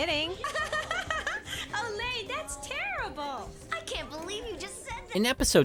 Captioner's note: laughs